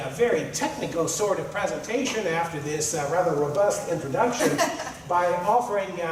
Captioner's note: laughter